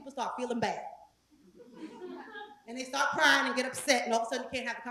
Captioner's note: laugh